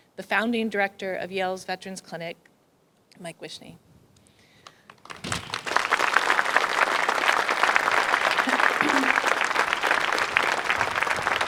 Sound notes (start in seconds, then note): 4.9 crowd applauds